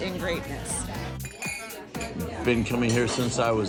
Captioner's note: glasses clinking